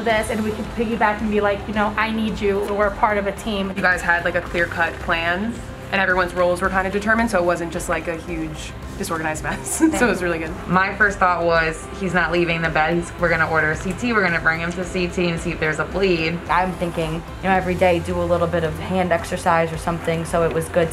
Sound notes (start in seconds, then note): 9.5 laugh